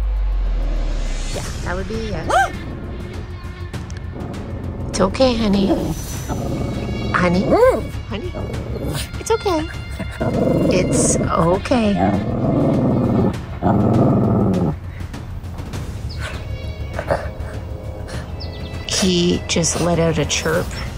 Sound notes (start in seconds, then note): 2.3 woof; 9.9 growling